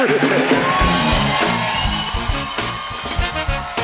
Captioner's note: cheers and applause; mid-tempo music plays